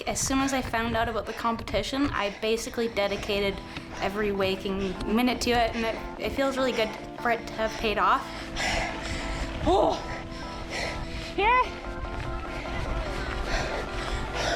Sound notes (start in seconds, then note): 8.7 panting and groaning